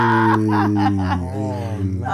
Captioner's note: laughter